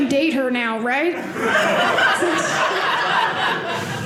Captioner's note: audience laughing